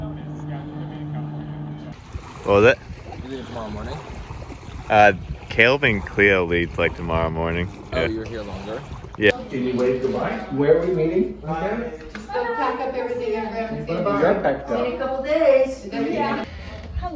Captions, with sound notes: What was that? You guys leave tomorrow morning? Caleb and Clio leave tomorrow morning. You're here longer? Yeah. Can you wave goodbye? - Were we meeting? (chitter chatter)